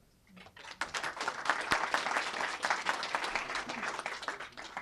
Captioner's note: applause